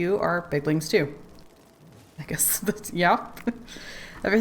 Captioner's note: laughs